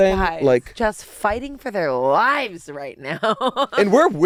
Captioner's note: laughs